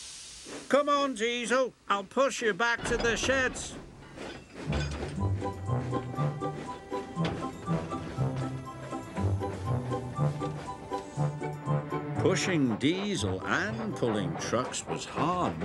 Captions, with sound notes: "Come on Diesel, I'll push you back to the sheds." (uplifting music) (trains puffing) Pushing Diesel and pulling trucks was hard work.